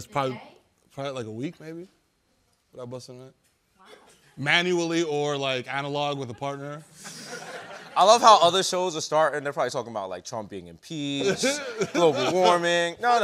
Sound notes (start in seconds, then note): 7.0 laughter